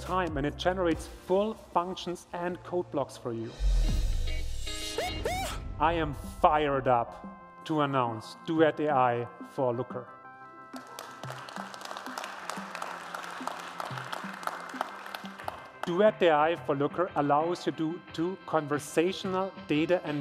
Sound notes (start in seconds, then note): 10.7 applause